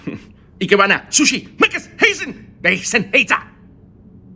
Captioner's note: speaks gibberish